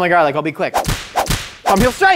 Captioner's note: palm strikes loudly